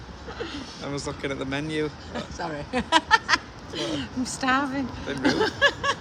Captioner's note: laughing